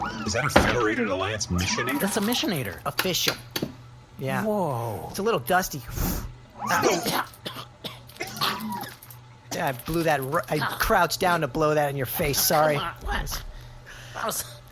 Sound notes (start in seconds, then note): 9.5 Nermut coughs